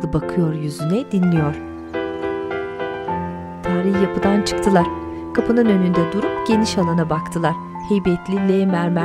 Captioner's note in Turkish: Kuş sesleri